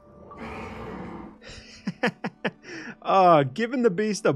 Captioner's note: laughs